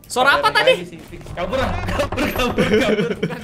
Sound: laugh

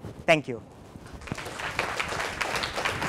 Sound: applause

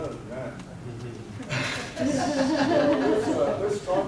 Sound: audience laughing

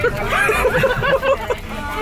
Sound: laughing

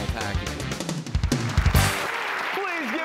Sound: applause

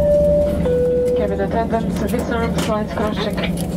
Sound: indistinct chatter

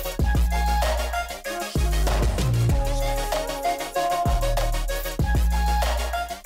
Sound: clap

